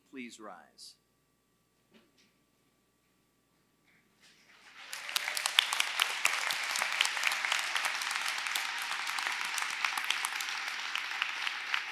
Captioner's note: applause